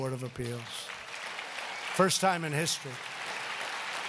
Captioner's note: applause